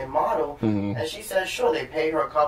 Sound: sounds of agreement

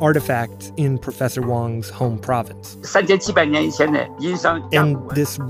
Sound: speaking Mandarin

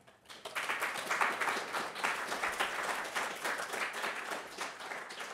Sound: audience applauding

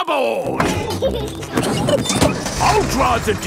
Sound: peppa and george laughing

